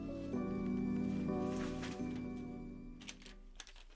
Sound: paper rustling

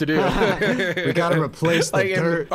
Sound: laughing

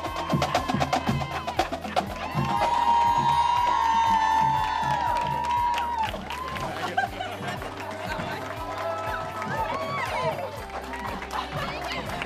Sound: drums & cheers

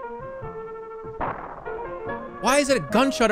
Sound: thundercrack

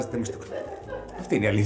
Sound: laughs

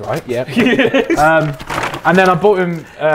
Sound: Tobi laughing

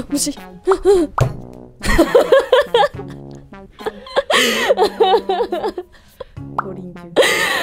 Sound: laughter

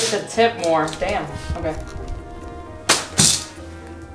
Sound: slap

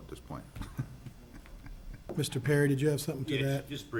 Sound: laughs

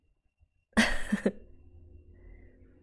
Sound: laughs

